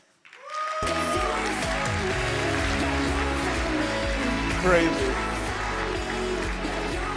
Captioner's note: applause